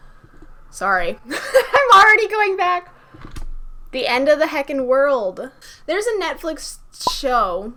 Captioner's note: laughs